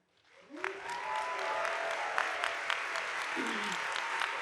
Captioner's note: audience applauding